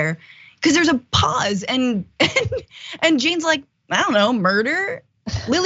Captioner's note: laugh